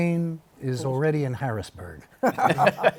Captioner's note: laughter